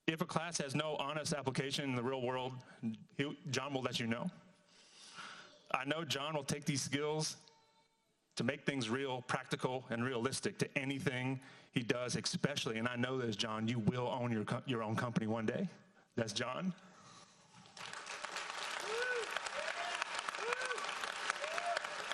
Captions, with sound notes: If a class has no honest application in the real world, Jon will let you know. I know Jon will take these skills to make things real, practical, and realistic to anything he does especially, and I know this, Jon, you will own your own company one day. That's Jon. (audience applauds)